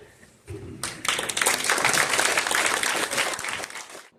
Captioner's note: applause